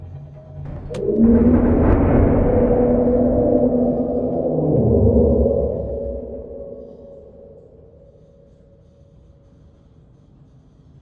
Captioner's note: roar